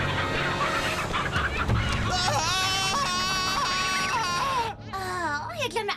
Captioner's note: screams